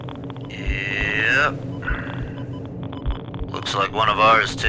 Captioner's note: machine continues beeping